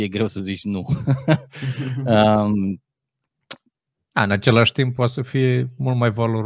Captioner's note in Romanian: Râsete